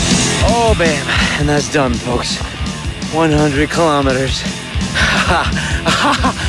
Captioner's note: laughs